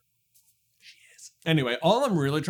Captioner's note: sotto voce